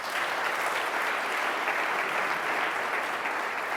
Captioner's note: audience clapping